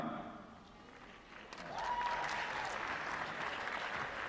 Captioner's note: applause